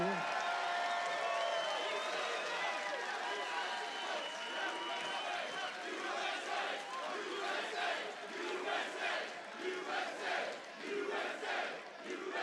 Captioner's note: audience chanting "USA"